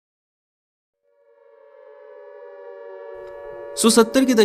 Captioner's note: war Siren Playing in Background